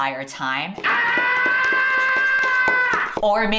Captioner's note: screaming